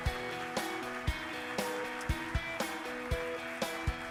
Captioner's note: upbeat music; audience claps